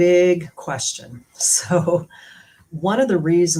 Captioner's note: laughter